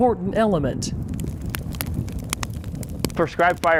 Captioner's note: fire crackling